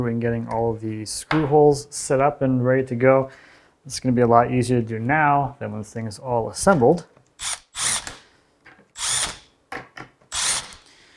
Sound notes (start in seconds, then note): 7.5 drill whirs